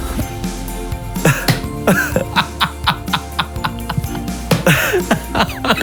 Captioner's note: upbeat music; all laughing